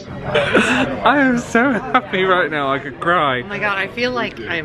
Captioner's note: laughing